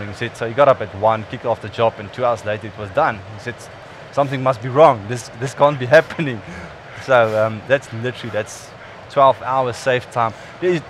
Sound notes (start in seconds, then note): 5.4 laughs